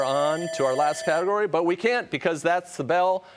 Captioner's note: timer sounds